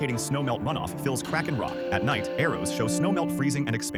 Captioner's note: wind blowing